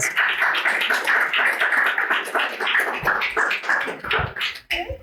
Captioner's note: audience applauding